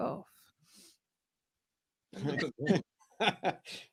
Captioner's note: laughter